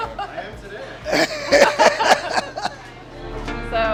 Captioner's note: laughs; light music